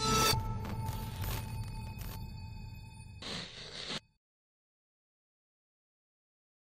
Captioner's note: pleasant music; electricity sputtering; musical screech